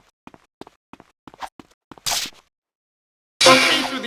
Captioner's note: tires screeching